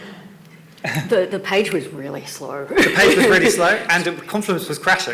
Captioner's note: laughs